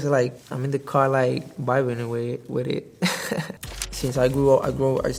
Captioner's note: laughs